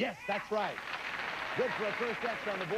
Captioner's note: audience applauding